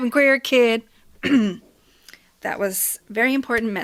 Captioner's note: clears throat